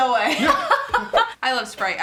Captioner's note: laughing